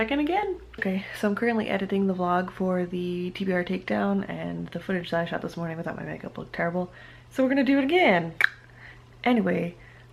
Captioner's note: clicks tongue